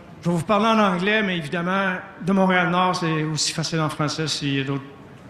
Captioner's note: speaking french